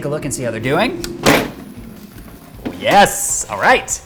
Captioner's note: basket opening